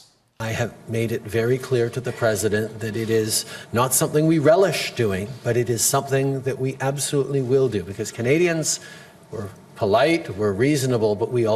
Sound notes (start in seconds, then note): none